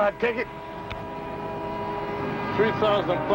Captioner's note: horn blaring in distance